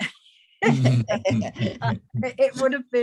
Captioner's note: laughing